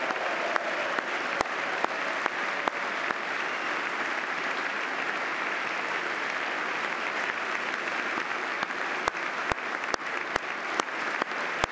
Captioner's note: cheers